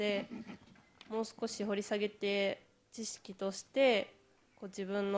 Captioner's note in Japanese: 咳払い